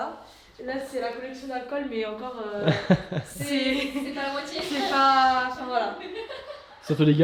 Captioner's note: laughs